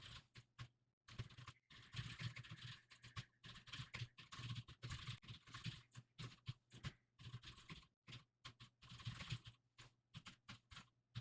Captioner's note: typing sounds